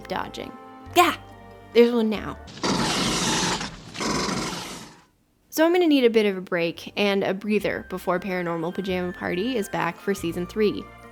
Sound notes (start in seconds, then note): 2.5 flamethrower sound